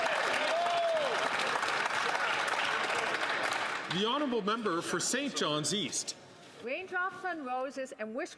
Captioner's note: some Applause